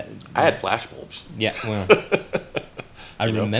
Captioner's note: laughs